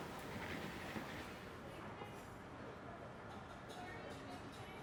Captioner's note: muffled chatter